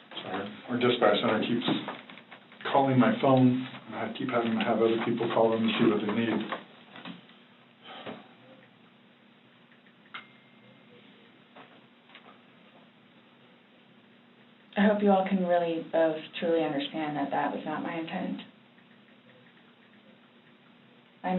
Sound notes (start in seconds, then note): 7.8 sighs; 9.7 cell phone keys tapping softly; 9.8 cell phone dings